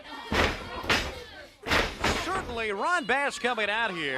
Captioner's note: crowd chatter